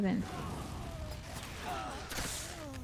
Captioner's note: gun fires